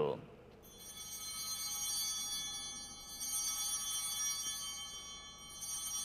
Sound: chimes ringing

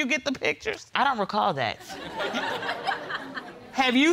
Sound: audience laughs

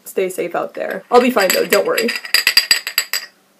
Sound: tea cup rattling in shaky hands

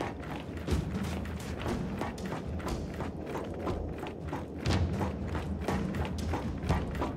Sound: footsteps

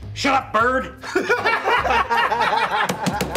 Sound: laughter

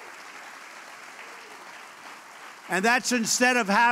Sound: applause

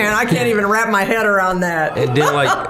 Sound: laughing

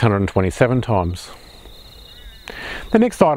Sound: birds chirping

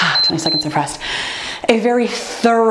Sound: timer beeps

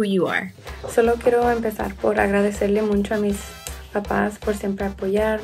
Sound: speaks in foreign language

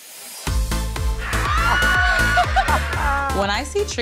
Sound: cheering

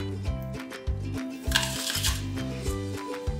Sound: crunch

